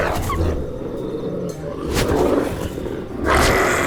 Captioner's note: wolf growls; Mischa growls